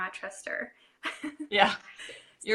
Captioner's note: laughing